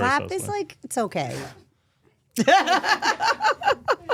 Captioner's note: laughs